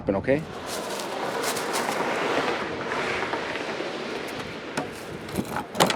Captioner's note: plastic bag rustling; bin lid thudding; bin scraping